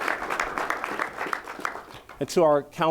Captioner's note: applause